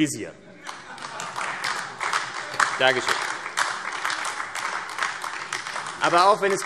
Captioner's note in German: Beifall AfD